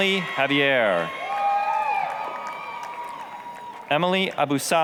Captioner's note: applause, cheering